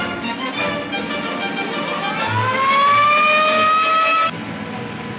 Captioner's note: police siren blares